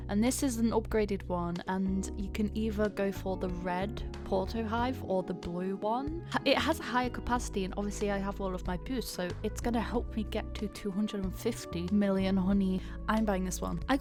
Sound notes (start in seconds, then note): none